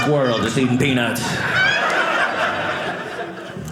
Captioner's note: audience laughing